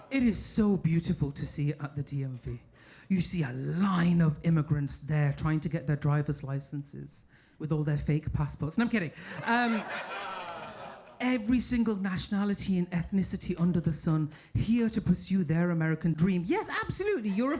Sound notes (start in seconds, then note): 9.3 audience laughing